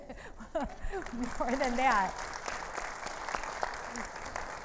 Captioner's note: audience applauds